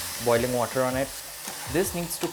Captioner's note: sizzle sound